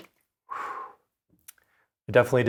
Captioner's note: air blowing